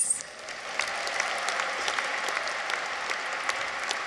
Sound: audience applauds

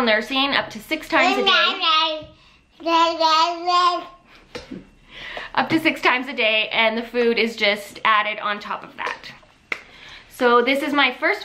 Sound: baby babbles

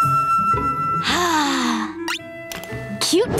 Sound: sighing

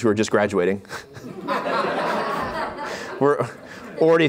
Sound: laughter

